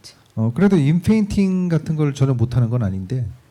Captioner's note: speaking korean